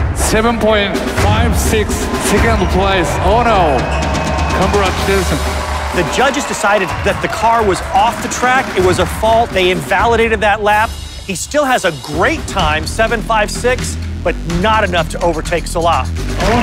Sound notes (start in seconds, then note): 4.7 speaking Japanese